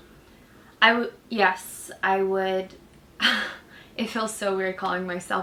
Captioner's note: laughs